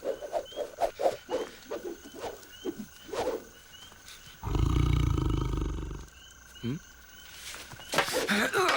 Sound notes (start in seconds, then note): 4.4 growling